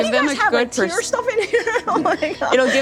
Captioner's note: laughing